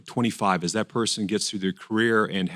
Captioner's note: none